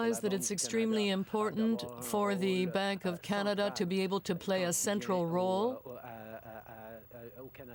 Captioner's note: speaking french